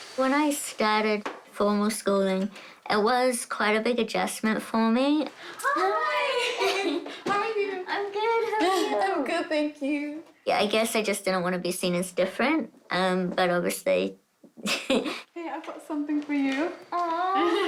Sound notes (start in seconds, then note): 14.6 chuckles; 17.4 both laugh